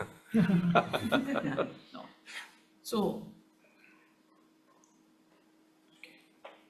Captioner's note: group laughing